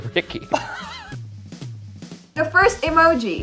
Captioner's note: laughs